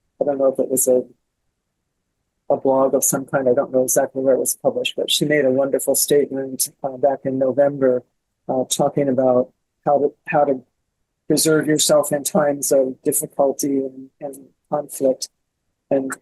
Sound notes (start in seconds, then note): none